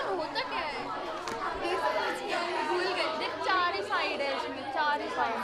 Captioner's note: speaks in foreign language